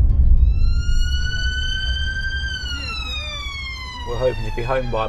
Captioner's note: ambulance siren wails